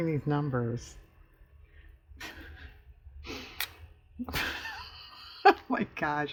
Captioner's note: laughs